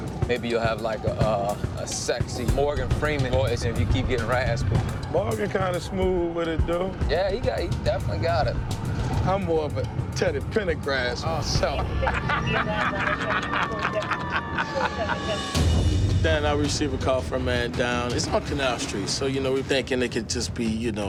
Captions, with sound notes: Maybe you'll have like a sexy Morgan Freeman voice if you keep getting raspy. Morgan kind of smooth with it though. Yeah, he definitely got it. I'm more of a Teddy Pendergrass myself. [laughter] [siren blares] Then I receive a call for a man down. It's on Canal Street so, you know, we're thinking it could just be, you know,